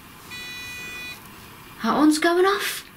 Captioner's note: electronic beeping